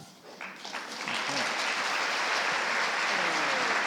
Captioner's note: applause